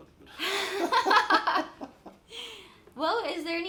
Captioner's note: both laughing